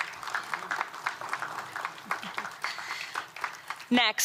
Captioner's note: applause